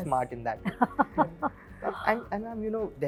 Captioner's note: laughs